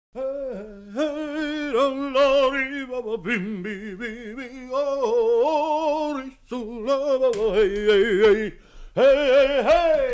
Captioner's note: humming a melody